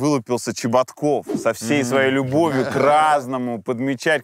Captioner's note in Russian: смеются